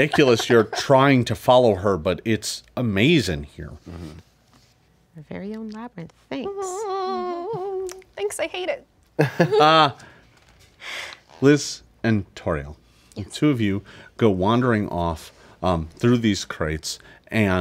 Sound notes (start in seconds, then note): 6.7 moans; 9.2 player laughs